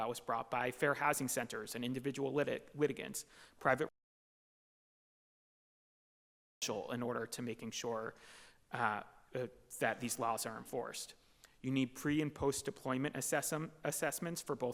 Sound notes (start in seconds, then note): 3.8 audio cuts out